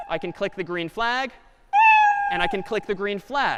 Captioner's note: cat meowing